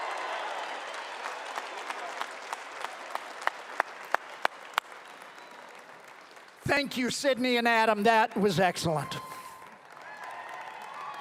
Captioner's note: cheering and applause